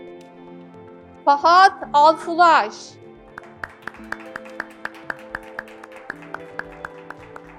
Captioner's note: graduates clapping